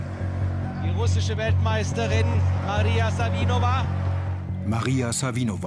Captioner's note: in german